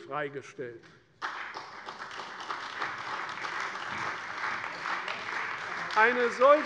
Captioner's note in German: Beifall bei der CDU und dem BÜNDNIS 90/DIE GRÜNEN